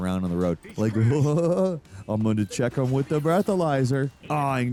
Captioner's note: laughs